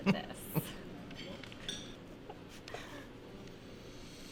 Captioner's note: both chuckling